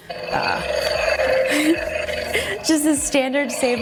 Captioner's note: lightsaber humming